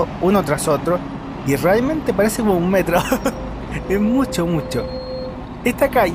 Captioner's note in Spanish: risas